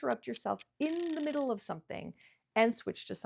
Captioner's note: timer dinging